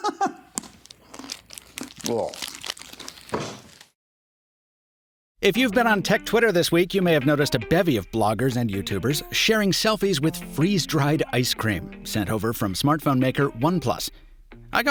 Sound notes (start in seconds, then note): 0.0 laughing; 0.2 chewing loudly